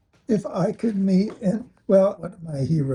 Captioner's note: laughs